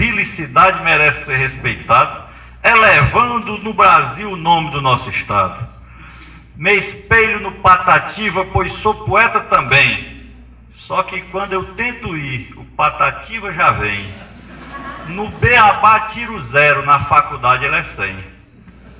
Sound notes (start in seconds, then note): 13.7 risos